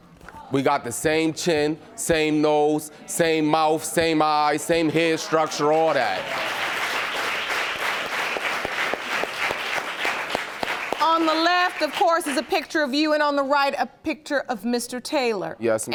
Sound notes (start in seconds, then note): 6.7 audience applauding